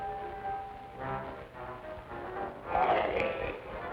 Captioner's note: wolfman growls